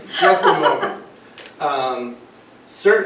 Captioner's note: laughter